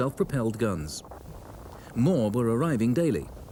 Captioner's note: radio buzzes